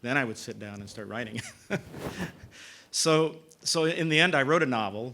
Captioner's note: laugh